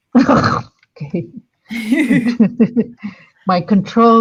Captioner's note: laughing